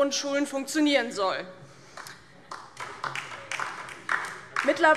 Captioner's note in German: Beifall DIE LINKE